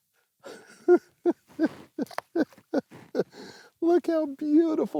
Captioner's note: laughs